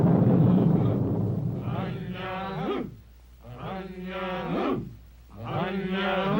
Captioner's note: thunder striking aggressively; men grunting in unison